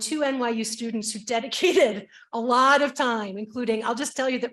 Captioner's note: chuckles